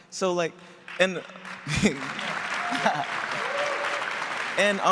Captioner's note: cheering and applause